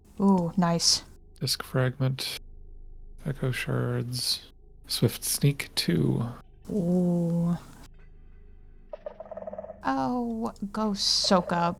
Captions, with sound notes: Ooh, nice. Disc fragment... Echo shards... Swift Sneak II. Ooooh. [SKULK SENSOR NOISE] Oh, go soak up.